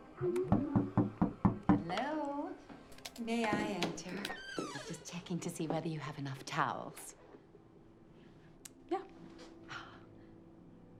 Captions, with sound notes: (knocking on door) - Hello. May I enter? I'm just checking to see whether you have enough towels. - Yeah. - Oh, oh my.